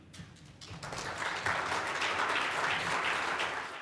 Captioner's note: applause